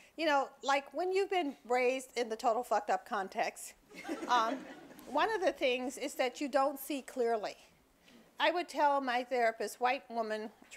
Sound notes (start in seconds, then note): 4.0 audience laughing